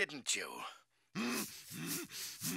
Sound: groaning

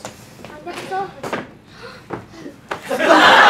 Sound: gasps

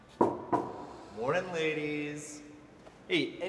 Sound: soft knocking

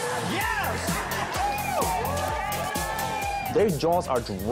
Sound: cheering

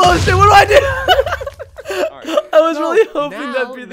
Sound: laughing

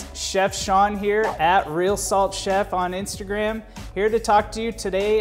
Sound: casual urban music; whooshing

